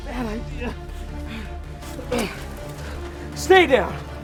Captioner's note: grunting